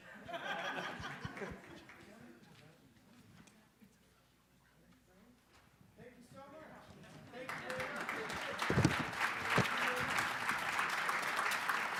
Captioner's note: applause